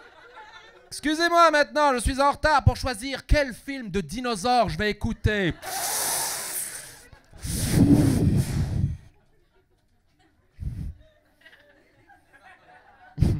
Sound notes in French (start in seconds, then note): 7.4 puff